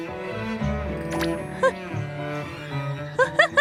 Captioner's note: giggle